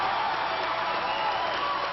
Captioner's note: applause